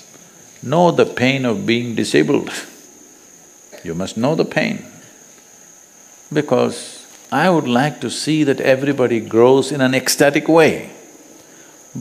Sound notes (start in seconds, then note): none